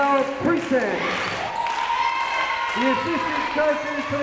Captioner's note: crowd members cheering